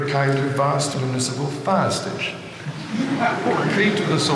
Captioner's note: audience laughing